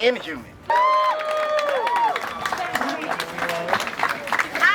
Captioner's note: crowd cheers